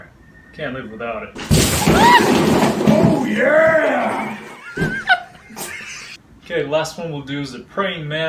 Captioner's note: clip: construction guy yells "oh yeah!" coworkers laugh